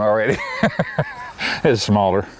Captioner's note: laughter